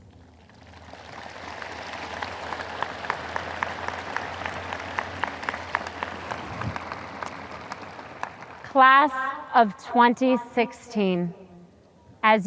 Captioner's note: audience applause